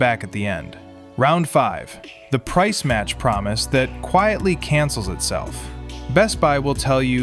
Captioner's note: thoughtful